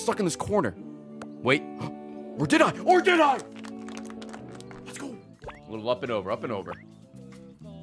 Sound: gasps

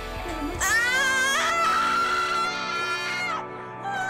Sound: screams

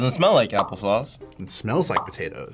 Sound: bubble popping

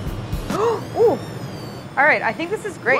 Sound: gasps

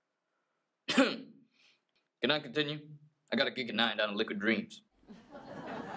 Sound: awkward cough

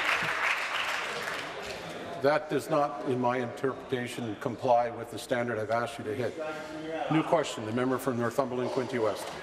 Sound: applause

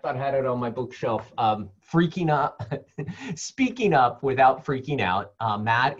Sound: laugh

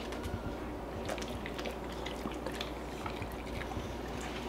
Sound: slurping

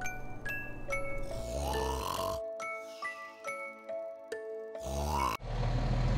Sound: humming a lullaby; snoring Loudly

